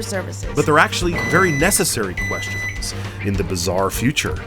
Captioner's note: podcast Voice